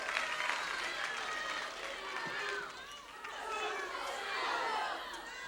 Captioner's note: audience discusses loudly